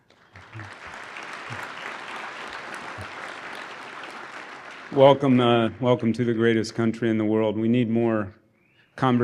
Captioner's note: applause